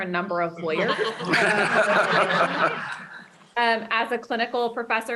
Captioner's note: laughter